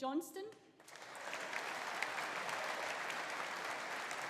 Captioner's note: audience applauding